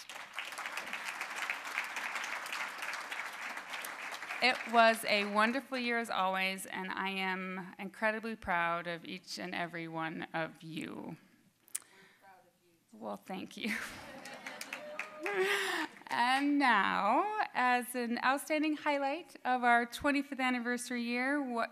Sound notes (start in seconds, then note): 0.0 applause; 13.8 audience laughing; 14.2 scattered applause